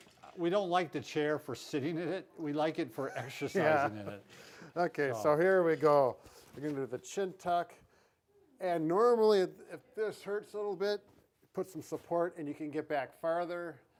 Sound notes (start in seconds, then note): 3.0 laughs